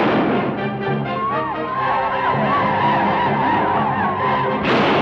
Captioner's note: gun fires; native Americans howl; gun fires